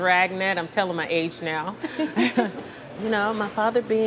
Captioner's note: laughs